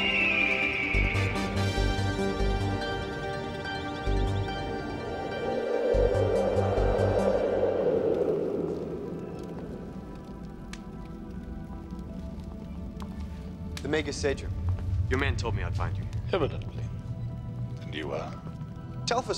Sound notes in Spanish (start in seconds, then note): 5.3 viento silbando; 9.4 música sombría